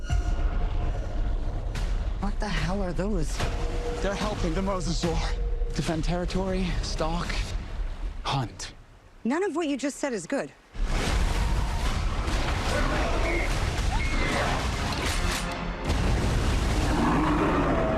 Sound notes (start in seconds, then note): 13.8 screams; 16.8 roaring